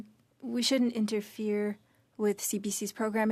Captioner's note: speaking French